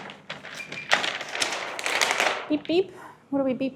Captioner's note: printer beeps